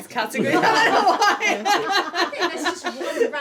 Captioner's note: laughing